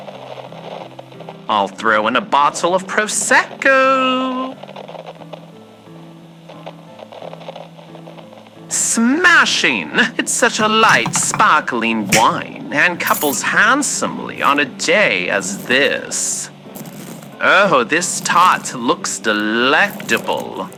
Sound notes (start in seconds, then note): 1.5 singsong voice